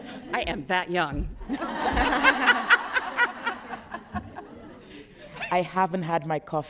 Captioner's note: laughter